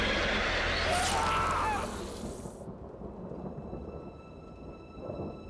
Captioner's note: squelching; Rich yells; soft, mysterious music